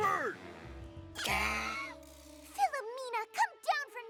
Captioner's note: coughs